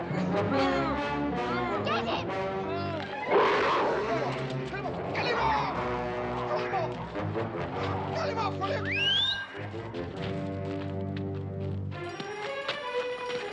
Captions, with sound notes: Get him! [growling] Get him off. Get him off! Call him off! - Get him off, will you? - [whistling]